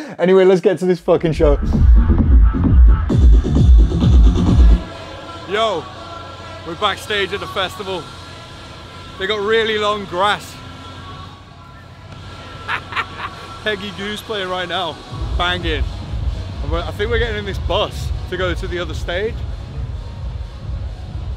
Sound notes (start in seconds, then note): 2.6 upbeat electronic dance music; 12.3 laughs